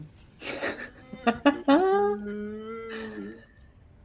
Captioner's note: laughs